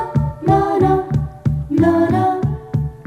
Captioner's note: none